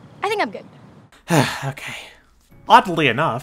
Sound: sighs

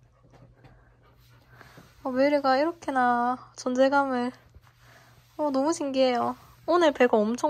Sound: patting

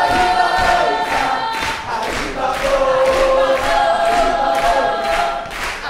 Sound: characters chanting

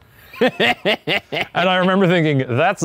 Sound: laughs

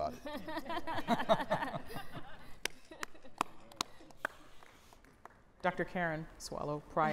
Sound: laughter

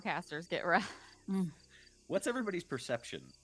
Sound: laughing

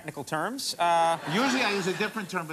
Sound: audience laughing

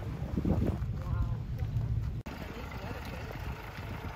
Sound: people conversing

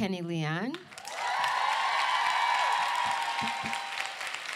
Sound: applause

